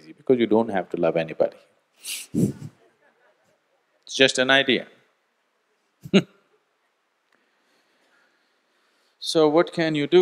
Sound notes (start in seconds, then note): 2.0 laughs; 6.0 laughs